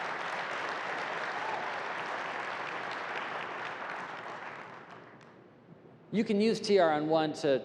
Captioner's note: applause